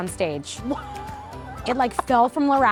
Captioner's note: laughs